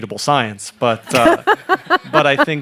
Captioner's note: laughing